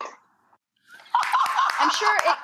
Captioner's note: Rachael laughs